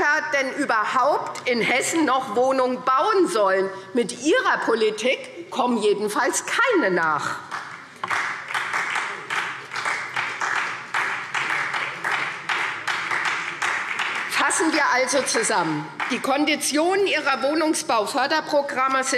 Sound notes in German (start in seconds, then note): 7.4 Beifall SPD